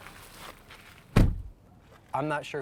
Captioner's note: car door closes